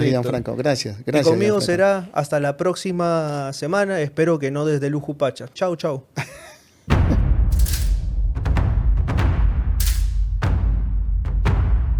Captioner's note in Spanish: risas